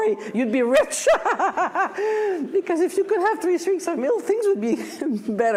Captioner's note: laughs